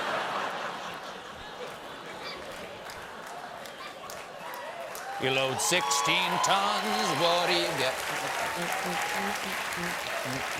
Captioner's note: laughter